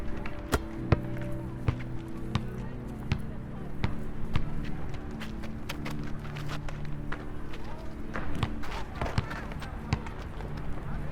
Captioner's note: basketball bouncing